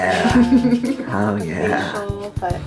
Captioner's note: laughs